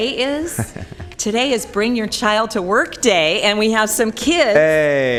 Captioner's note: laughter